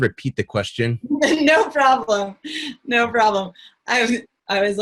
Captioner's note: chuckles